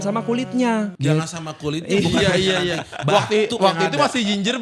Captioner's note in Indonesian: tertawa